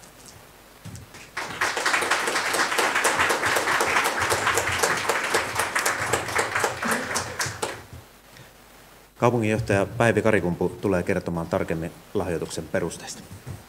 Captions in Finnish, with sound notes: (Aplodeja.) Kaupunginjohtaja Päivi Karikumpu tulee kertomaan tarkemmin lahjoituksen perusteista.